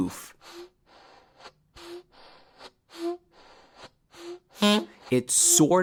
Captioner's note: air puffs and horn beeps